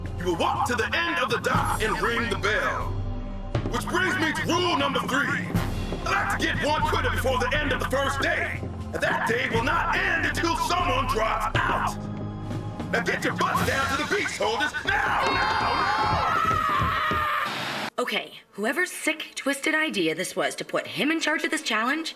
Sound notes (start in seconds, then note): 15.3 campers Screaming